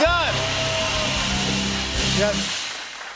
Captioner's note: cheers and applause